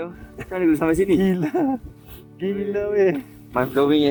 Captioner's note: laugh